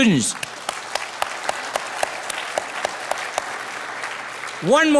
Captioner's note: audience applauding